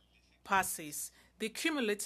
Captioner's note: speaking French